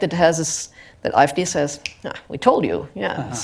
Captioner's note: snap